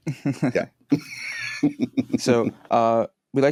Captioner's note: laughter